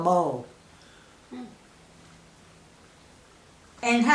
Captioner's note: silence